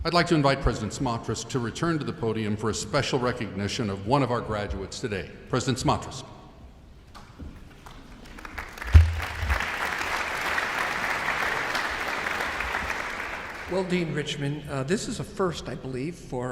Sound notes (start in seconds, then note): 7.6 audience applauds